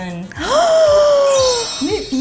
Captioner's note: gasping